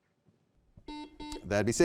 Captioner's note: buzzer beeping